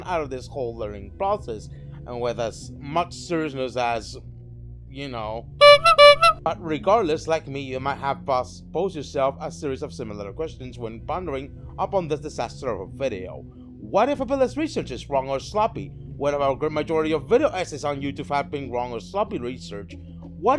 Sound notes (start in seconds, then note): 5.6 honk honk